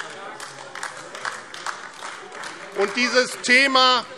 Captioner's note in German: Beifall AfD - Zurufe